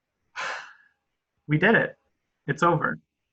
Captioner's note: exhales